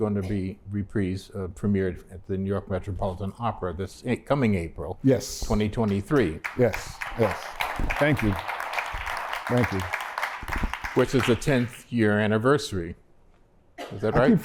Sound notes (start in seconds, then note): 5.8 applause